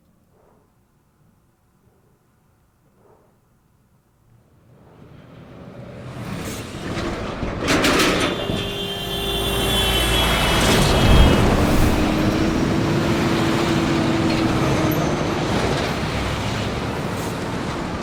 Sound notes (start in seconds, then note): 4.7 trucks rattling; 7.9 horn blaring